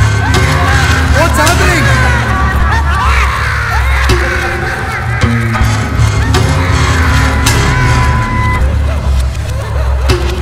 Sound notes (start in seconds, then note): 2.4 disturbing laughing voices continues